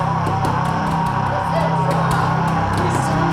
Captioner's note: Chemock roars